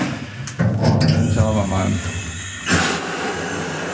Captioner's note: hissing